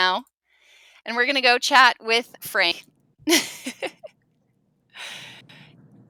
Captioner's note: laughs